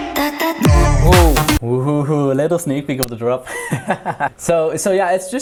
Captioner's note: dramatic laughs